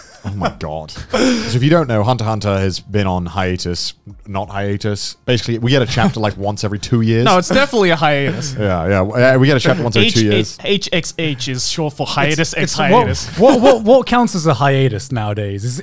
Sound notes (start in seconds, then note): 0.0 laughing; 12.3 laughing